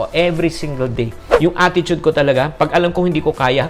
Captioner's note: swoosh